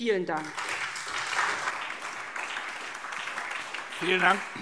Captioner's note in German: Anhaltender lebhafter Beifall SPD